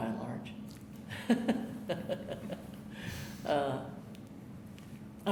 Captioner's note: chuckling